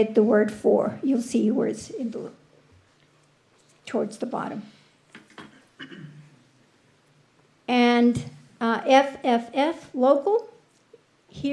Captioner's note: clears throat